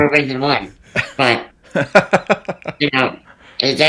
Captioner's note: laughing